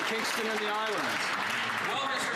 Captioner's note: some Applause